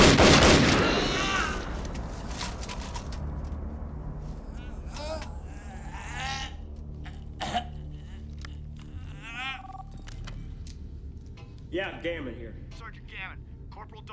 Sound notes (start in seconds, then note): 0.0 gunshots banging; 0.0 gun clicks; 1.7 Becker groaning; 4.5 somber music; 10.1 phone ringing